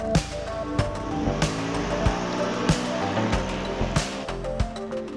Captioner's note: car engine revs